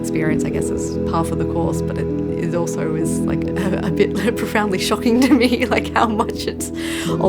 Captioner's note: laughs